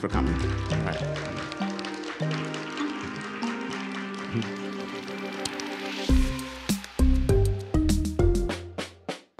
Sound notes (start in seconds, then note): 3.9 audience applauds